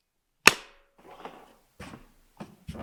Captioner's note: lid thuds